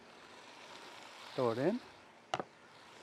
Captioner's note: knife tapping